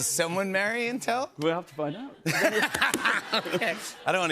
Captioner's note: laughter